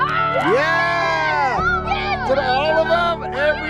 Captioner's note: cheers